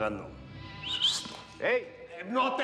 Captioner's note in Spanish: silbido